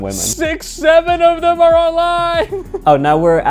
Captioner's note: laughs